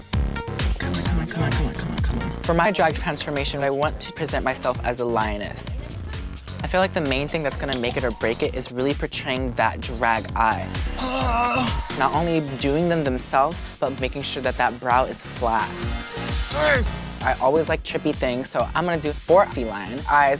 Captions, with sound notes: Come on, come on, come on, come on, come on. For my drag transformation, I want to present myself as a lioness. I feel like the main thing that's going to make it or break it is really portraying that drag eye. ( groans ) Not only doing them themselves, but making sure that that brow is flat. ( groans ) I always like trippy things, so I'm gonna do four feline eyes